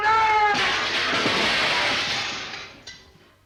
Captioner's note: glass shatters